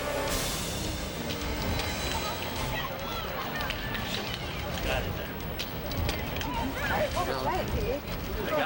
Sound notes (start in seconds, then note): 0.0 dramatic music; 1.4 group chattering